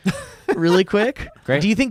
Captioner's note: laughing